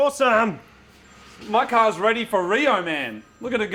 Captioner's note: phone ringing